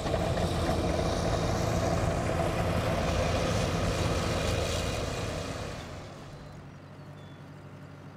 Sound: rumble of machinery

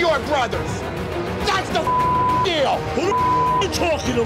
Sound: beep

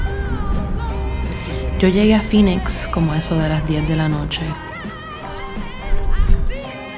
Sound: spanish

